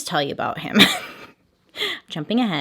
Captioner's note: chuckles